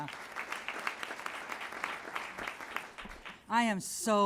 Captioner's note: applause